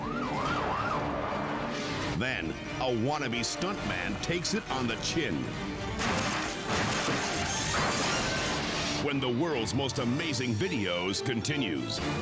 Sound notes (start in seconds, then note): 0.2 tires screech; 5.8 bike clatters